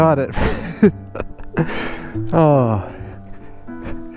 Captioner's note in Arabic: يضحك